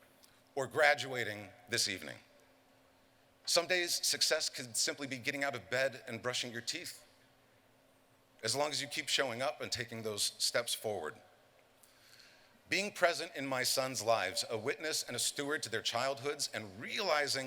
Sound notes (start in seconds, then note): none